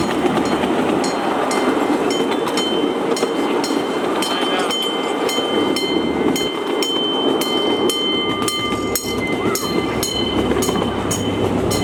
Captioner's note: grade crossing bell sounding